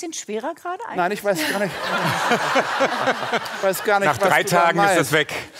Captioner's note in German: Lachen